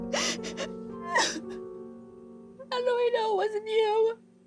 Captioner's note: soft piano music; crying